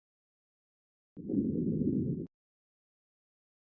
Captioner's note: under-water noises